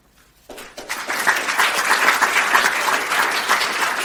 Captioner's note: clapping